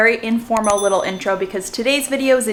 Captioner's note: bell dings